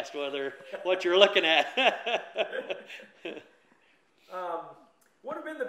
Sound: both laugh

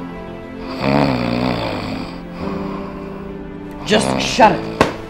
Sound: snoring

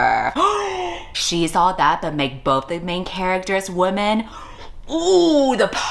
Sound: gasps

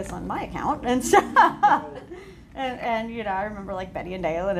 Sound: laughs

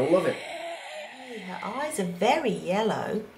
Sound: oxygen mask breathing sound

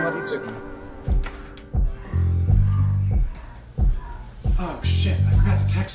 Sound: sexual Noises emanate throughout

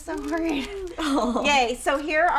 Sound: chuckles

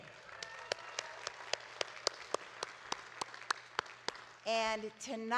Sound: audience cheering and clapping

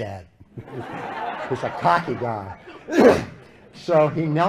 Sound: laughter

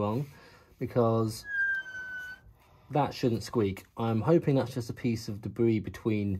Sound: horrible squeak noise

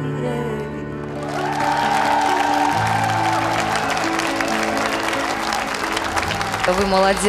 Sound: applause

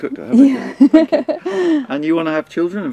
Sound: laughing

